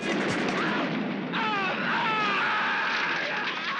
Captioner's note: man screaming